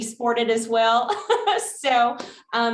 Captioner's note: laughter